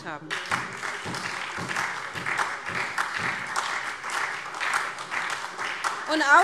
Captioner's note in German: Beifall SPD